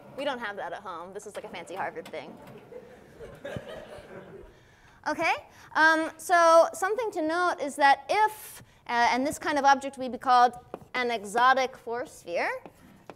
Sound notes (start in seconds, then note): 2.6 class chuckles